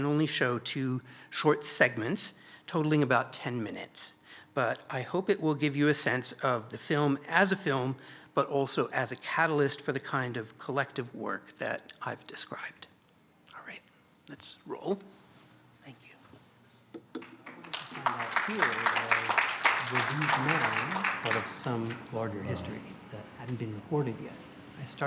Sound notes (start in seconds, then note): 17.2 applause